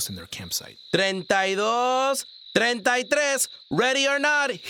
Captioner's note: speaking Spanish